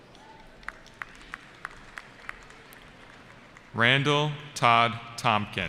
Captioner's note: cheering